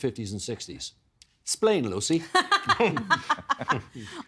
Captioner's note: laughing